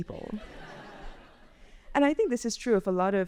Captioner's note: audience laughs